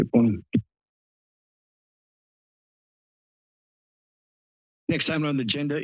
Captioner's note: silence